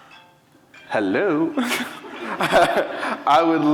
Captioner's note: cellphone ringing